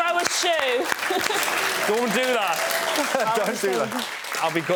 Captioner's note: laughs